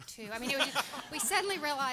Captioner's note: everyone laughing